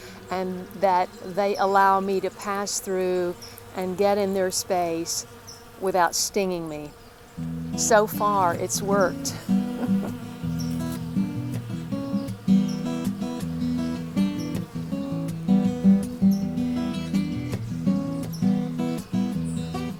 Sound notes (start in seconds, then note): 10.8 bees buzzing